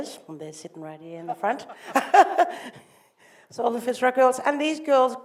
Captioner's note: laughs